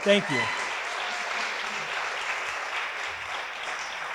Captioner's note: audience applauding